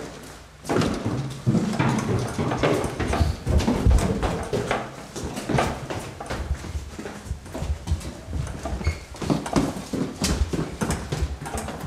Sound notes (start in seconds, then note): none